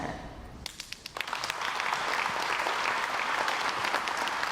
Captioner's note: crowd applauds